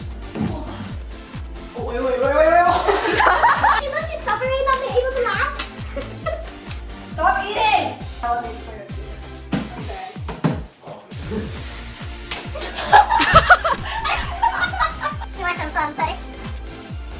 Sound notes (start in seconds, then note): 4.1 she's suffocating from her laughter